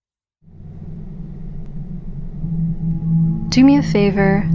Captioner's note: rising tone